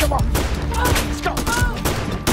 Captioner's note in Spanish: Disparos